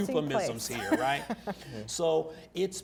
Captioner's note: laughter